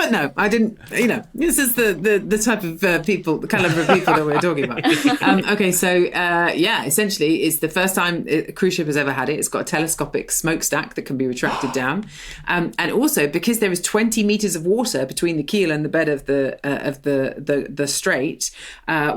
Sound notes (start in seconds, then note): 0.0 laughs; 3.5 others laughing; 11.4 gasps